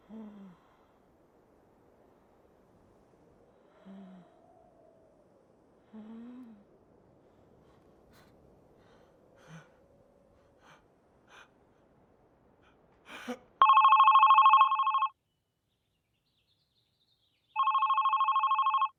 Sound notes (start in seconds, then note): 10.5 gasping; 15.7 phone ringing